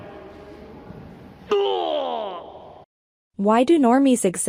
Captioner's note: unusual scream